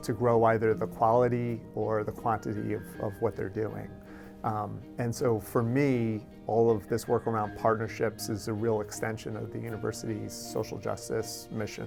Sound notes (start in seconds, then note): none